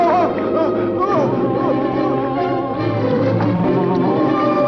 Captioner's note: Porky moaning